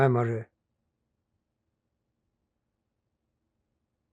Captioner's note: pauses 6 seconds